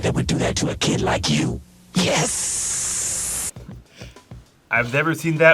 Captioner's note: hisses